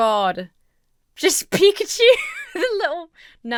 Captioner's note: laughs